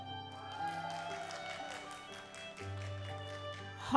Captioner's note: audience applauds